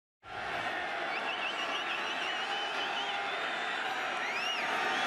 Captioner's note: crowd clamoring